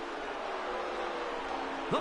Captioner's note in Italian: Applauso